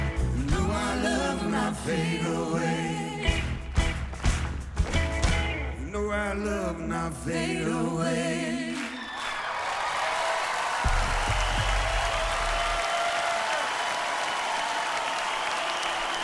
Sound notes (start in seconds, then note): 8.8 cheering and applause; 9.3 song ends